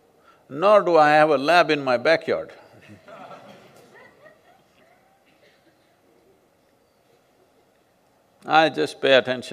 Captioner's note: few laugh